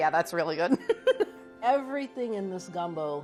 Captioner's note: laughing